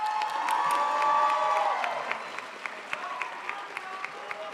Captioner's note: crowd applauds